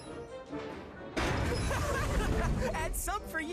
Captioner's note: boom!; laughs